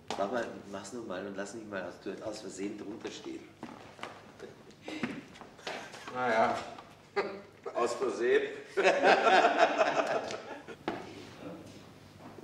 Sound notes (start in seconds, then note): 8.6 laughter